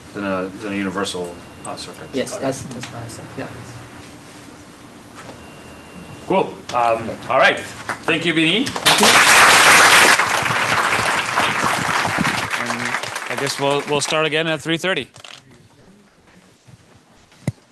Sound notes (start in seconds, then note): 8.7 applause